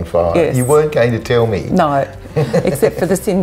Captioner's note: laughs